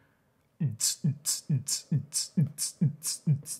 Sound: beat boxes

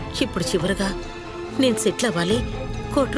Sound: none

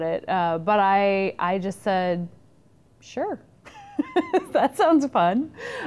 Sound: laughs

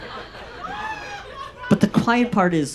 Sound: audience laughs

